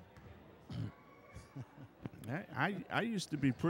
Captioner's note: chuckling